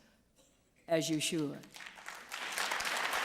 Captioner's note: applause